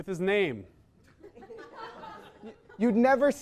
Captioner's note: slightly more significant audience laughter